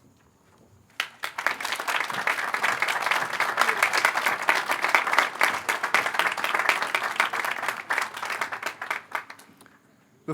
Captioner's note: applause